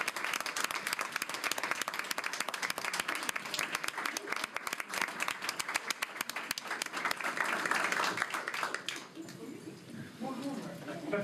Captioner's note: applause